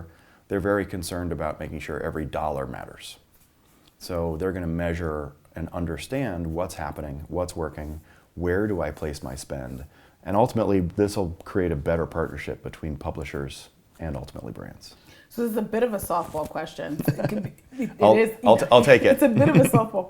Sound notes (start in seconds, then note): 18.6 laugh